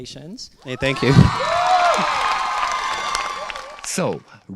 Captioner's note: applause